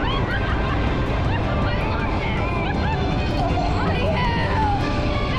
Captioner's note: screams